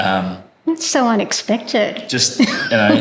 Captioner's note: laugh